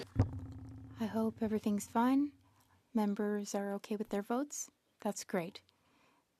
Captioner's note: speaking French